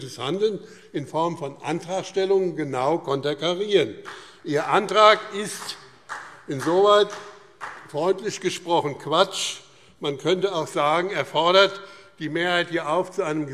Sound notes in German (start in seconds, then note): 4.0 Beifall